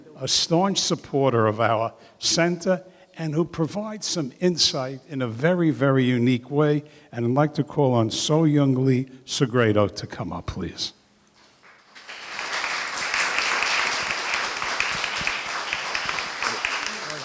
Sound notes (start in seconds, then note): 11.4 applause